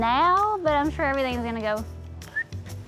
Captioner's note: whistles